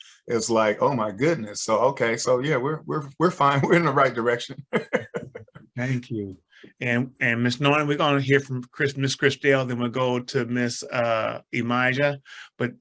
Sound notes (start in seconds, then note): 3.6 laughs